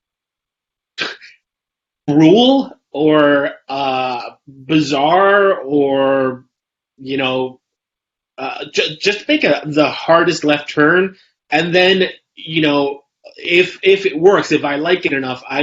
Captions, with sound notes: (laughs) cruel or bizarre or, you know, just think of the hardest left turn, and then, if it works, if I like it enough,